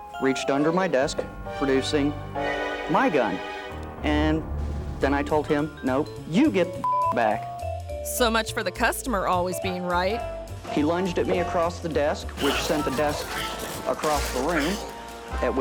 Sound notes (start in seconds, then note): 6.8 beep